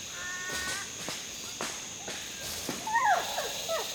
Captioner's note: animals vocalizing